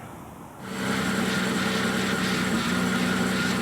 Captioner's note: engine running